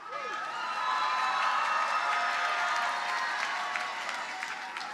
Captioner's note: audience cheers and applauds